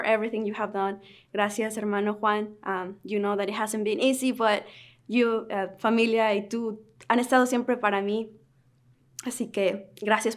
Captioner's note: Spanish